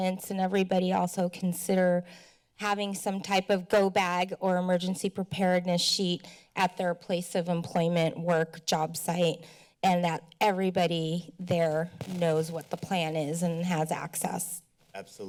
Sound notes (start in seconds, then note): 2.0 speech breath; 9.4 speech breath